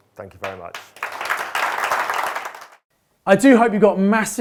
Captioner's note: crowd applauding